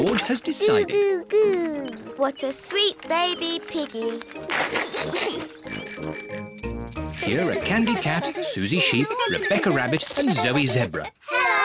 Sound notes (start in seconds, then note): 5.0 giggles; 6.0 bicycle bells tinkle